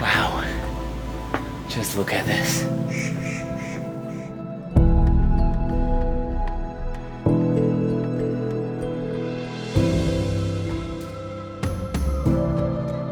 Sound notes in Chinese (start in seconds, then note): 4.6 轻柔的音乐; 4.6 鸟叫声